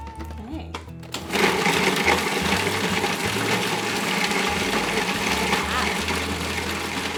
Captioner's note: food processor whirring